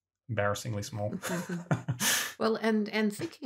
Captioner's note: laughter